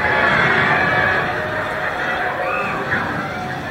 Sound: sounds of bombs and people screaming

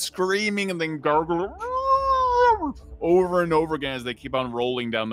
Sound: muffled yelling

